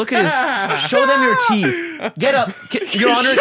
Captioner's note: laugh